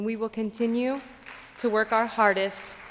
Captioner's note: applause